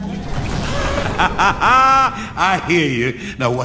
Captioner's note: laughing nervously